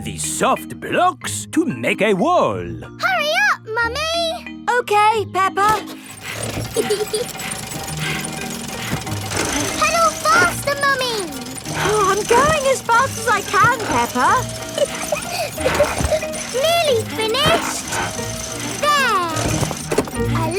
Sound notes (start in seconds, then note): 6.4 peppa laughing; 6.5 mummy pig panting; 15.0 peppa laughing